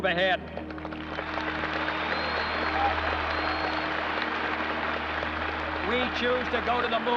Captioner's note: cheers and applause